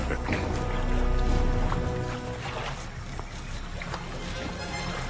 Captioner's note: water splashing